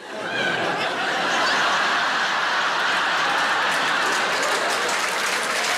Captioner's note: audience laughing and applauding